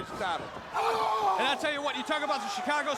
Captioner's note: crowd chatters